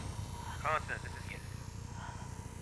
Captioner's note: radio breaking up